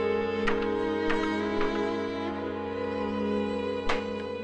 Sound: keyboard clacking

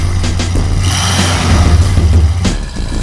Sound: engine revs

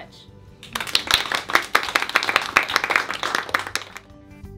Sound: applause

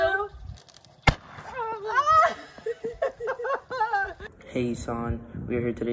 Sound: confetti cannons pops; chuckling

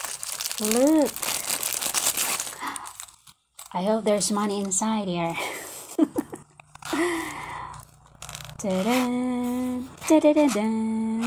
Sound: opening with humming---tahdah-tahdadah-dan; laughs

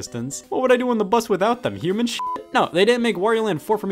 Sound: beep

